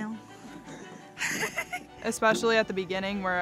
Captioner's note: laughs